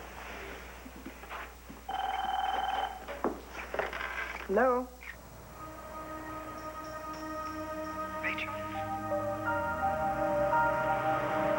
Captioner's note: telephone rings